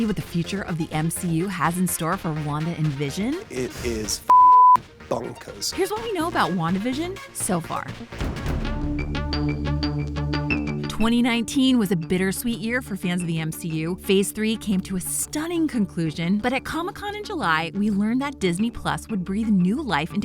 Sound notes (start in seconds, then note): 4.2 beep; 8.5 intense music